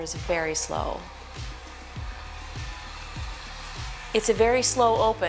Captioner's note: slider buzzes